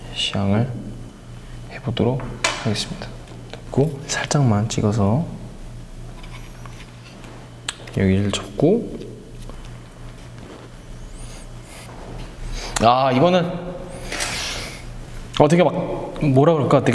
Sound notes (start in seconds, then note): 13.9 sniffing